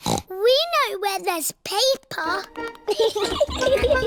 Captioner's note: snorts; giggling